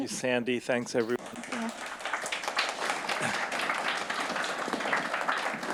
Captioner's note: audience applauding